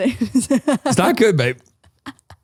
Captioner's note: laughs